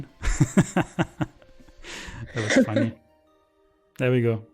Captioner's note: laughs